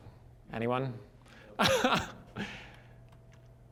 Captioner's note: laughing